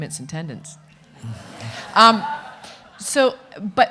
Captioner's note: audience laughing